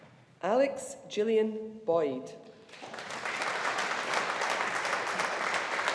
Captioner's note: audience applauding